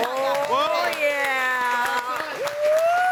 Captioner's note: audience applauding